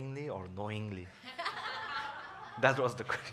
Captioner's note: audience laughs